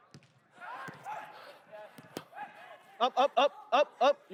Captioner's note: team chatters